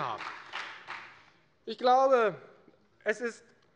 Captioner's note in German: Beifall bei der FDP und bei Abgeordneten der SPD